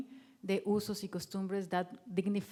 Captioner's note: speaking in foreign language